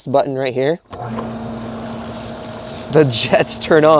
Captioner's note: tab whirring